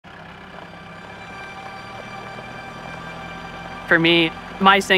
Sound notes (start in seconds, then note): 0.0 engine roars